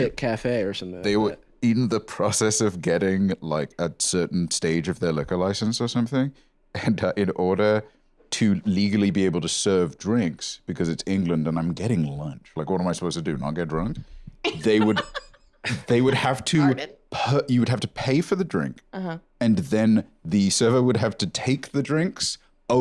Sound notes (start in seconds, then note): 14.4 laughs